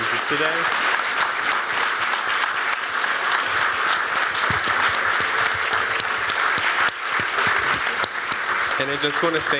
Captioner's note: applause